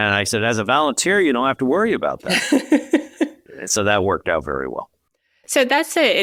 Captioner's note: chuckling